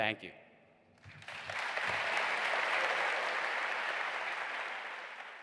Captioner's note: audience applause